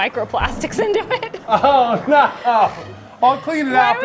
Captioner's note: laughs